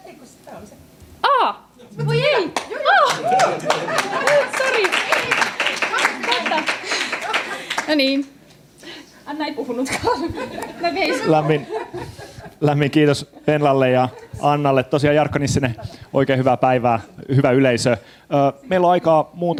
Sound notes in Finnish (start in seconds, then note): 3.0 aplodeja; 9.9 naurua